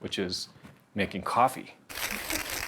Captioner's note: grinding